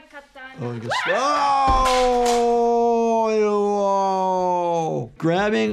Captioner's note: screams